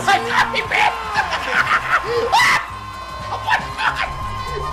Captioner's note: laughs in disbelief